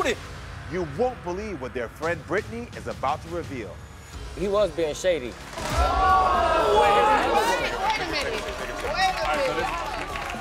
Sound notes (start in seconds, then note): 5.6 audience exclaiming